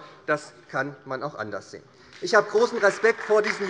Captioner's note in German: Beifall SPD